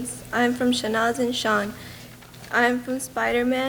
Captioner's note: speaks in a foreign language